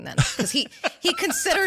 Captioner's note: laugh